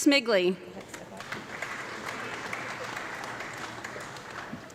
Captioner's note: audience clapping